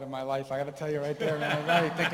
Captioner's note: laughter